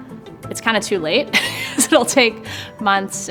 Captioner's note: chuckles